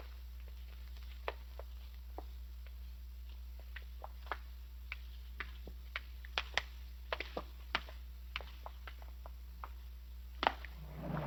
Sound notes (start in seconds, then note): none